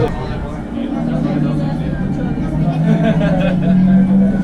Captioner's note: engine noises